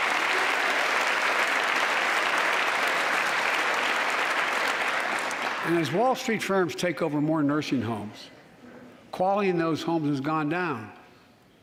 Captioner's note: applause